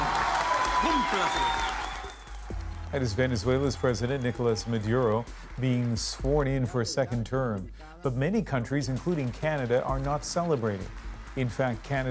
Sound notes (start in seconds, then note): 4.9 cheers and Applause